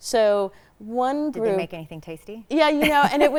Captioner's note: chuckles